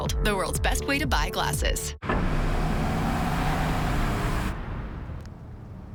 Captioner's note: SFX: Engine sound